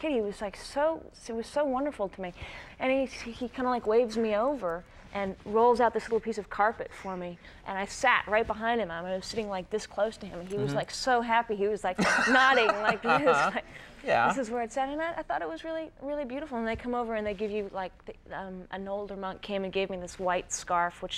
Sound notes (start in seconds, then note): 12.0 Conan laughs